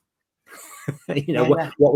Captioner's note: man laughing